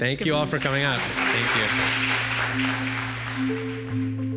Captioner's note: applause